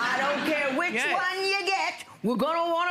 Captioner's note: audience laughter